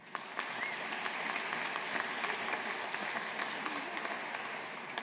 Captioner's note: audience applauding